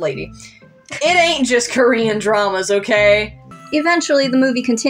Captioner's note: snicker